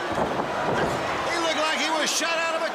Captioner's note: crowd chatter